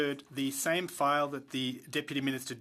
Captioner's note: speaking French